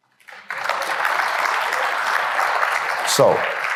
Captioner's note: applause